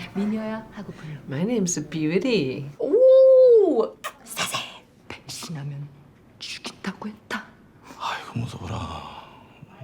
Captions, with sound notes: - My name's a beauty. - Ooh! (smooches) Sassy.